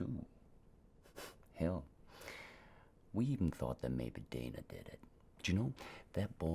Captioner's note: scoffs